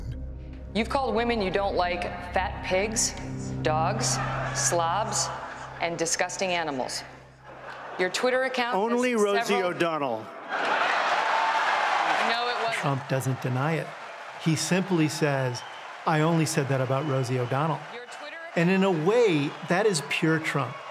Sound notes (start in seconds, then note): 10.3 laughter